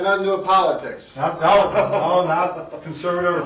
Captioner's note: laughing